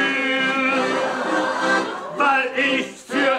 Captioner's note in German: Lachen